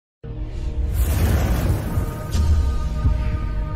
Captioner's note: air whooshing